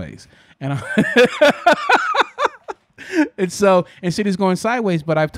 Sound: laughing

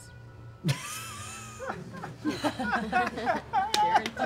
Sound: laughing

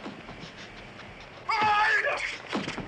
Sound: yells

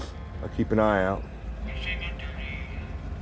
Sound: voice on phone

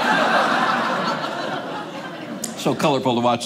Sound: audience laughing

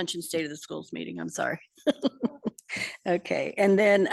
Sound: laughs

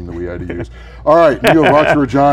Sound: laughter

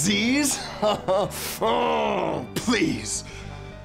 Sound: laughs

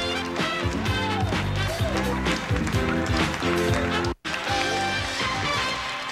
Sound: audience applauding

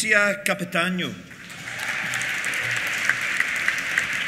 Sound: applause; cheers

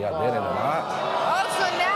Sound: audience jeers

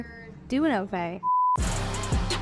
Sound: TV beeps; high-energy music

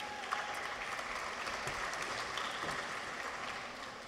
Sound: audience applauds

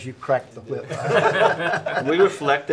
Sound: all laughing

